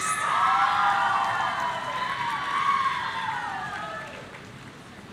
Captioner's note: audience cheering